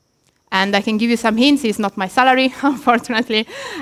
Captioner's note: laughs